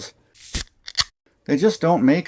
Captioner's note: beer opening sound